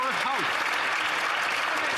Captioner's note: some Applause